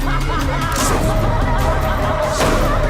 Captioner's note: people laughing hysterically; they laugh; gun clicks